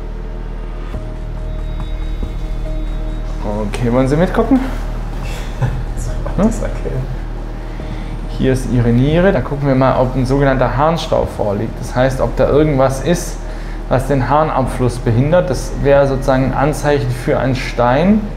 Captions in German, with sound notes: (Gespannte Musik) Okay, wollen Sie mitgucken? (lacht:) Ob ich das erkenne. Da ist Ihre Niere und wir gucken, ob sogenannter Harnstaub vorliegt. Das heißt, ob da irgendwas ist, was den Harnabfluss behindert. Das wär sozusagen ein Anzeichen für einen Stein.